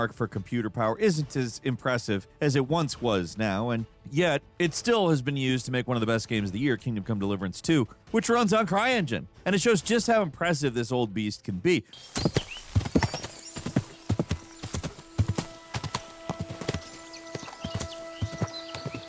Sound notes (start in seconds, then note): 11.9 birds chirping; 12.0 footsteps pounding